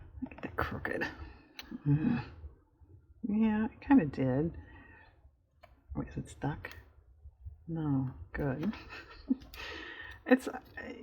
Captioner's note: laughs